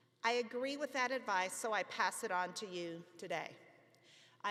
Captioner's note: none